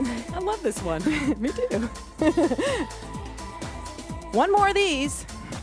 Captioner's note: laughs